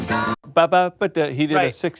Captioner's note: imitates drum